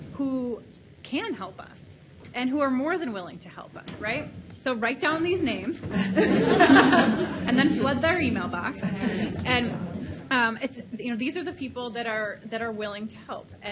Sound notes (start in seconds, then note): 5.9 laughs